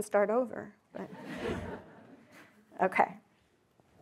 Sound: audience laughing

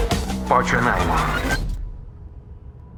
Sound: device whirs, stops

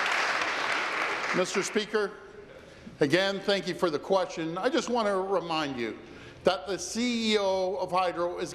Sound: applause

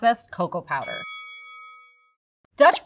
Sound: bell dings

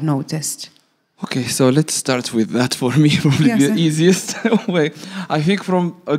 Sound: laughs

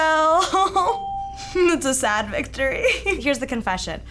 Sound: sniffling

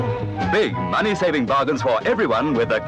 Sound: voiceover

